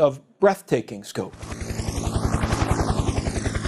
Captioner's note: helicopter zooming away